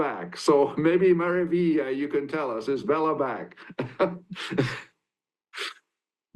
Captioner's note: chuckles